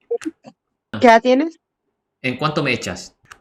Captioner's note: Spanish